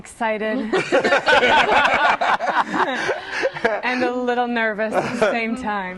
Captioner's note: laughter